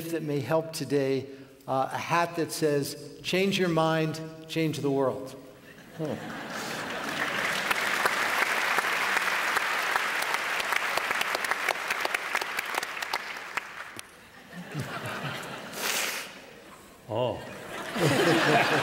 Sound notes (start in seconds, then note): 6.7 applause; 10.7 laughter